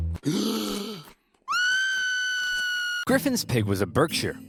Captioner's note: gasps then screams